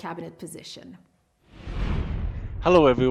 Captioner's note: whooshing